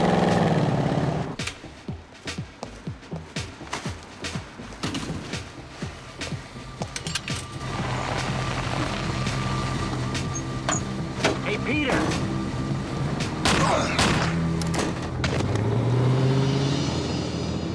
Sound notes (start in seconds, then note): 13.2 gunshots